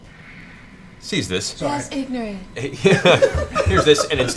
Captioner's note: Michael Jackson voice; laughter